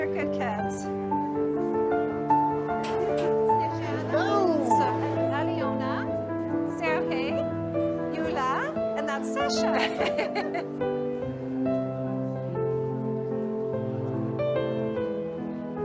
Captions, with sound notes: They're good kids. Snezhana, Alyona... Sergei, Yula, and that's Sasha. [laughing] [dramatic piano music]